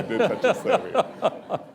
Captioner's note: laughter